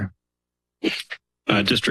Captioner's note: pause